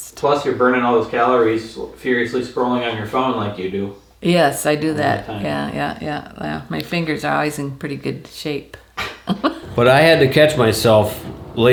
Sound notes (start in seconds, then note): 9.0 laughing